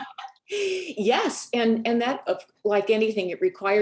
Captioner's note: laughs